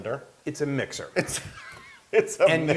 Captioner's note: laugh